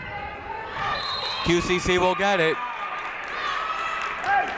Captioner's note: whistle blows